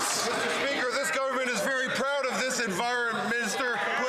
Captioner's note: some Applause